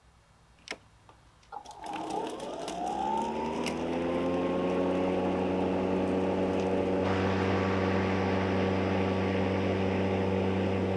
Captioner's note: battery mower starts up and runs, quieter